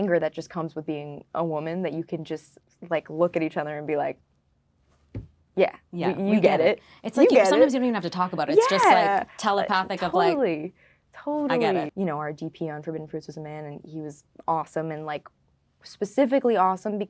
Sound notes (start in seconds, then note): none